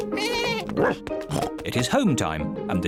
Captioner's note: meows; bleats; barks; snorts